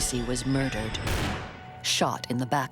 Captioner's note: gun firing